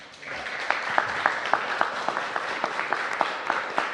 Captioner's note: applause